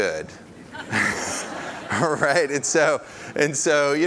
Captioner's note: audience laughs